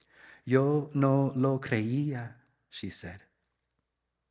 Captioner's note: speaks in Spanish